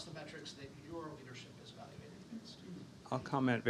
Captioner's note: faintly speaking